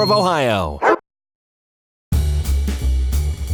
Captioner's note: dog barks; jazz music